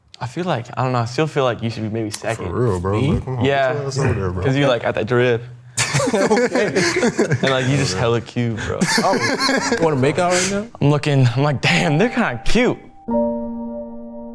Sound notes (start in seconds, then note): 5.7 group laughing